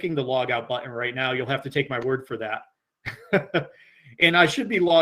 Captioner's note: laughs